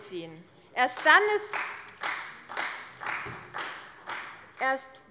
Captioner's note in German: Beifall bei der CDU